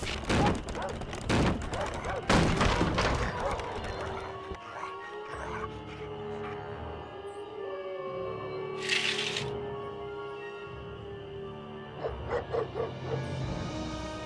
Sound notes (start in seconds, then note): 0.0 barking; 4.9 ghostly howling